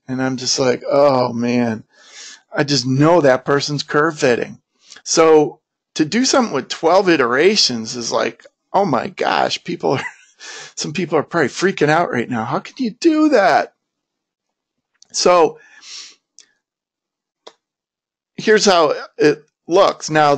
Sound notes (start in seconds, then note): 8.8 laughs